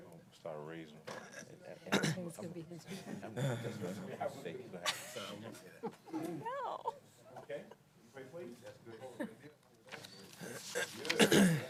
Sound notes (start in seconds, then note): 1.7 laughter